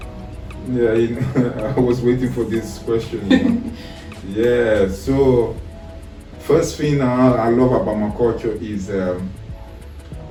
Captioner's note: laughs